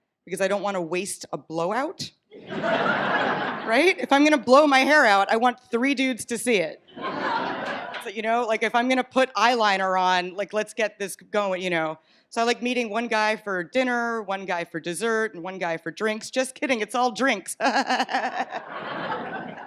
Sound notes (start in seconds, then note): 2.3 audience laughs; 6.9 laughter; 17.6 laughs